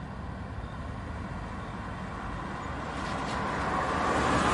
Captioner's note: traffic roaring